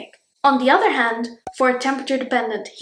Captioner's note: bubble pops